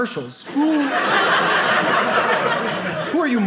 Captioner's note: audience laughing